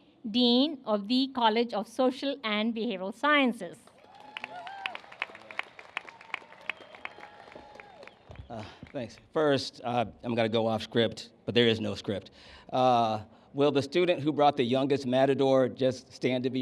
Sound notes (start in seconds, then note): 3.9 cheers and applause